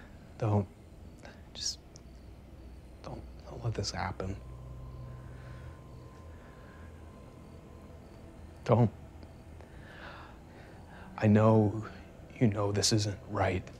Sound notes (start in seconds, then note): 0.0 Ben sighs; 4.7 crickets chirping